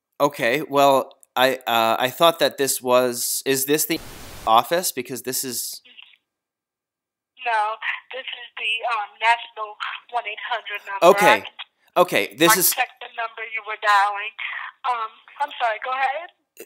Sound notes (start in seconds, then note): 3.8 static - a state